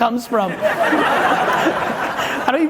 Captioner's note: audience laughing loudly